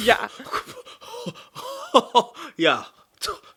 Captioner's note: scoffing